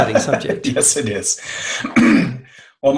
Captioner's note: laughing